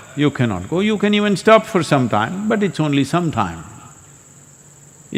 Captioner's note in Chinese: 呼吸